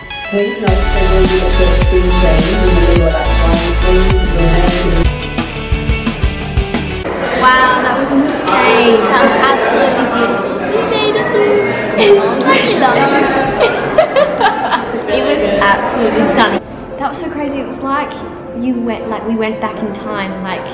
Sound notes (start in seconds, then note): 5.3 rock music; 13.2 laughing